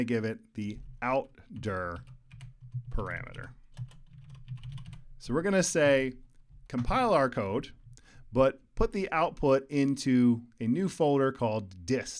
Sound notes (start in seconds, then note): 3.7 keyboard keys clicking